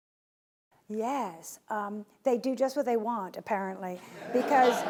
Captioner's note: laughing